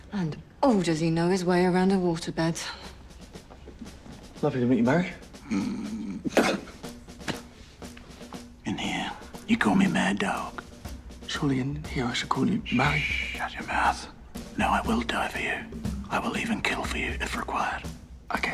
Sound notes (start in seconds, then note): 5.4 snorts, spits